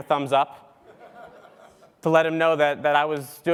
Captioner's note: laugh